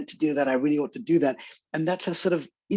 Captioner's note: none